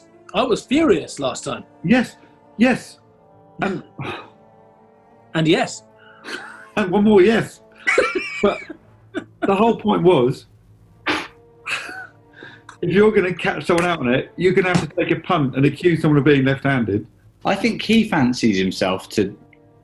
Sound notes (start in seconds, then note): 3.6 sighs; 7.7 laughing; 7.7 chuckling